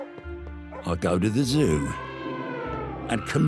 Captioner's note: elephant sounds